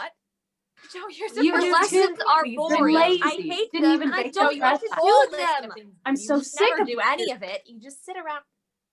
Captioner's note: various bickering